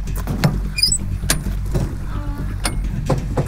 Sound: latch clatters; tense music

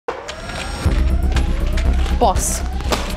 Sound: siren blares

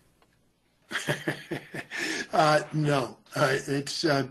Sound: laughs

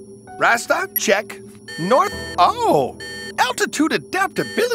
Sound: beeping

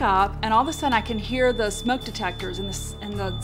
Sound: smoke detectors beep

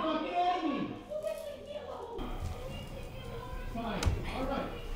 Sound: muffled yelling

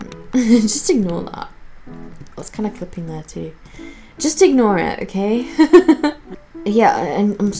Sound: laughs

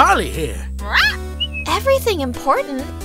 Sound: Polly squawks, whistles

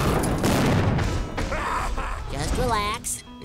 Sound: laughing

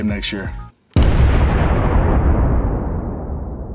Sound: boom

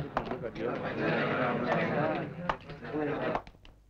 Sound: indistinct chatter

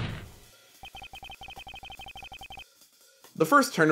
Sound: little digital blip sounds of text appearing in Ace Attorney

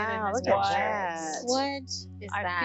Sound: all exclaiming

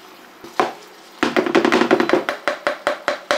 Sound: chopping

